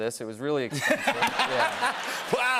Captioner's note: laughter